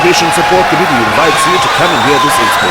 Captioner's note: wild applause and cheering for 22 seconds